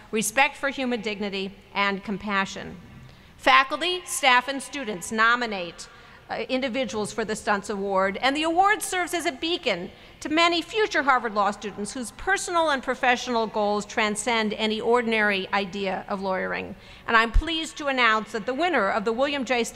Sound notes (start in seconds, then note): none